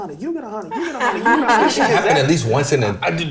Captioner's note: laughing